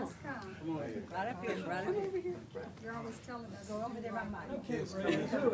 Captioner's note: multiple voices